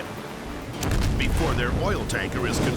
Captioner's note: explosion rumbles